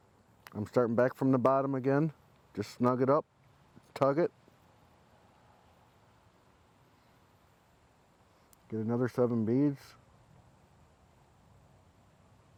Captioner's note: silence